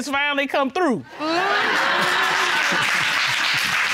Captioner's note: audience laughing, applauding